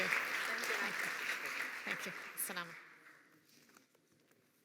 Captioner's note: applause